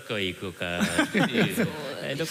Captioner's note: laughter